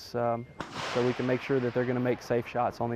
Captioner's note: gun fires